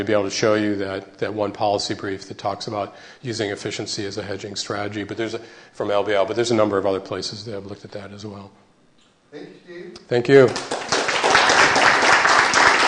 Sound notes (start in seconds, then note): 10.4 applause